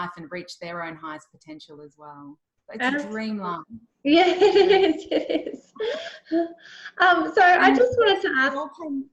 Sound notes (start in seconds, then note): 4.1 laughs